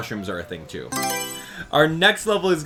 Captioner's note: Mario Selection Sound